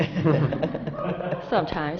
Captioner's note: laughter